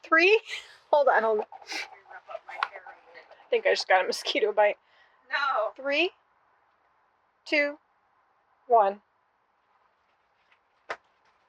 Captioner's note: her: muttering